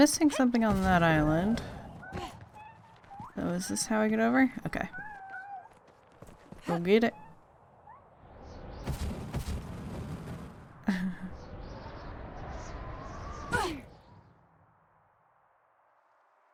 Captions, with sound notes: I'm missing something on that island. So is this how I get over? Okay. Go get it... *quiet sad sound*